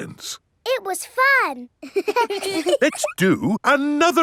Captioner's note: children laughing